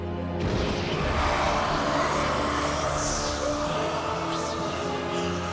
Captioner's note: crowd booing